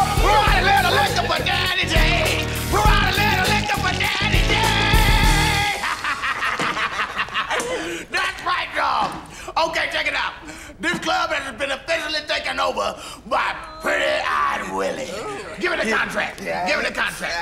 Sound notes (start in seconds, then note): 5.5 laughing